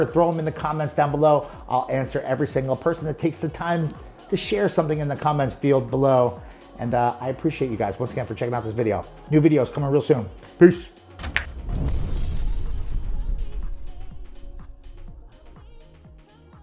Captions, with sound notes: and throw them in the comments down below. I'll answer every single person that takes the time to share something in the comments field below. And I appreciate you guys once again for checking out this video. New videos, coming real soon, peace. (glass shattering) (upbeat music)